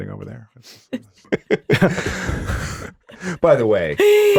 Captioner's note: laughing